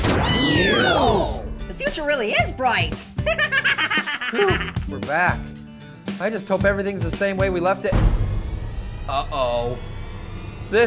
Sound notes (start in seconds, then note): 0.0 poof!, Marshmallow cheers; 3.2 laughs